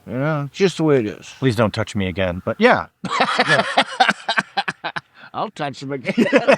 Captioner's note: laughing